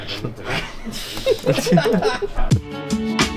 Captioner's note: background laughs